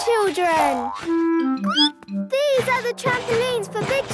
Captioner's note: squeaks